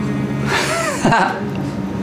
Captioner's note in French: rires